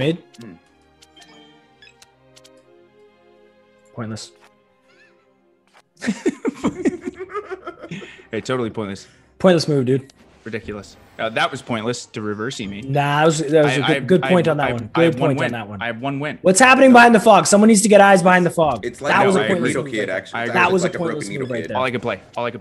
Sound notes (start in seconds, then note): 6.0 laugh